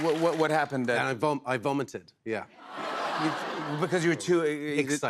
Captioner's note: audience exclaims